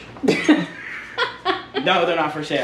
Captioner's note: laughs